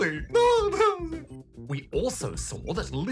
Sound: laughs

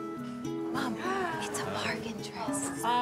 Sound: whispering

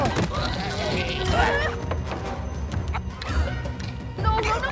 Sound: grunting

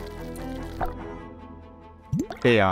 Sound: water plopping

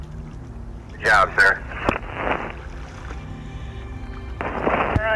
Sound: radio Voice

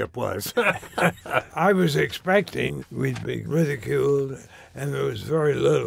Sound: laughs

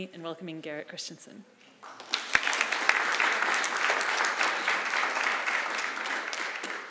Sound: applause

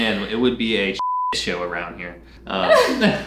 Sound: beep

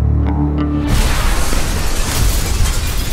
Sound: boom

